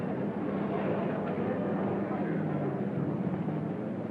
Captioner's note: crowd murmuring